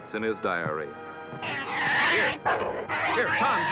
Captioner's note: growling